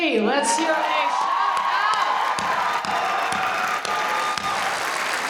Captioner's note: audience cheering